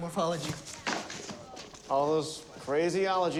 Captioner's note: books clatter